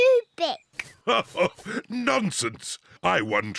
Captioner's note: laughs